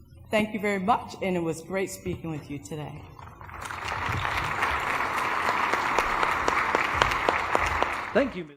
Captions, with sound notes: Thank you very much, and it was great speaking with you today. ( applause )